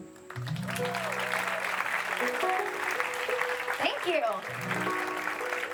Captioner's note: audience applauding